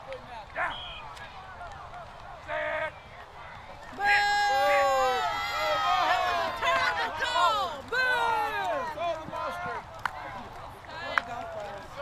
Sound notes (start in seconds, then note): 0.6 blows Whistle; 3.8 crowd Boos; 8.4 crowd Jeers